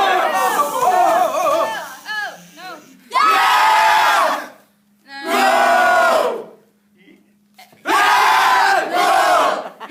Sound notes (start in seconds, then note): 2.9 cheers; 5.1 boos